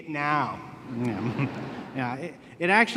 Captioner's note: laughter